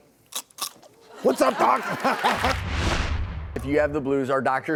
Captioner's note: audience laughs